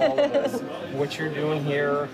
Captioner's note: laughing